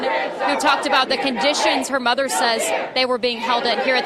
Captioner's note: crowd chanting